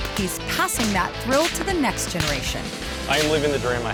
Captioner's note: whipping sound